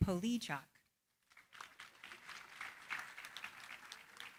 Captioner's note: applause